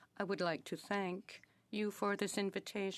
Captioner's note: speaking French